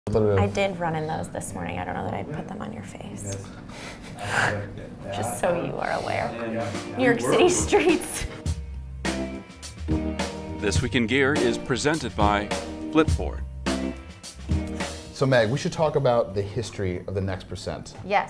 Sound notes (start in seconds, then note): 3.8 laughs; 8.4 soft music